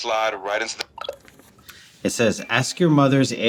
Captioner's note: phone chimes